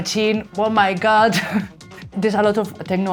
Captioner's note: laughs